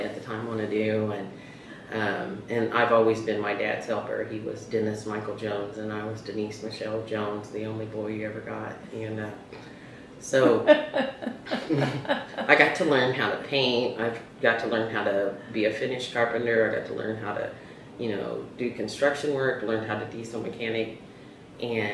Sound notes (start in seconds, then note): 10.8 laughter